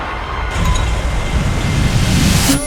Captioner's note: thunder